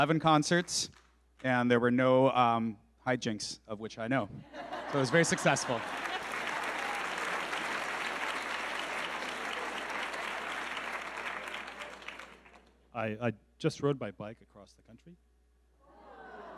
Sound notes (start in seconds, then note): 4.5 audience laughing; 6.8 audience clapping